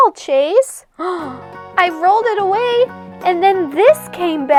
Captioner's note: gasps